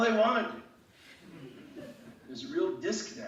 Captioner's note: laughing